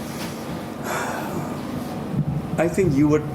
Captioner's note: sigh